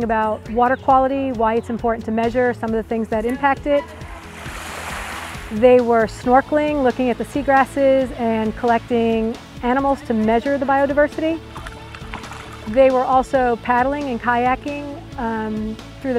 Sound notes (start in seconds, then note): 3.8 waves crashing; 11.4 paddle hitting water